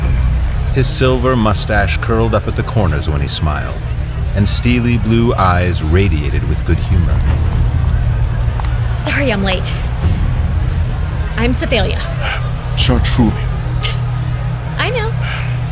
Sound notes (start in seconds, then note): 7.2 approaching light footsteps; 14.5 chortling